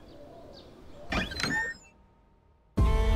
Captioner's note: door opening; sad music playing